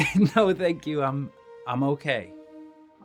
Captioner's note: laughs